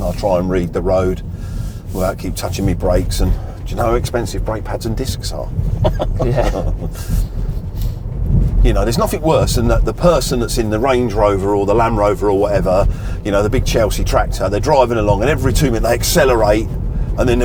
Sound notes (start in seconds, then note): 5.7 both laughing